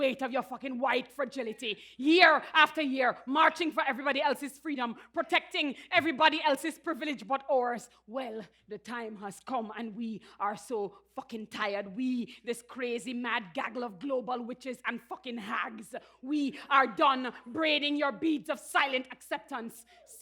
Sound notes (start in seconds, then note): none